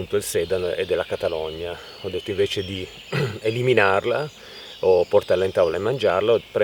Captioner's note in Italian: schiarire la voce